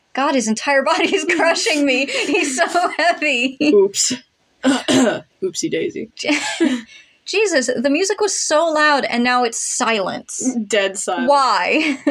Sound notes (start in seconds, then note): 4.6 clear's Throat; 6.3 snicker; 6.7 chuckle